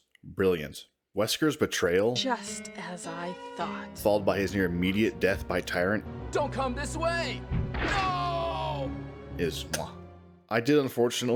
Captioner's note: chef’s kiss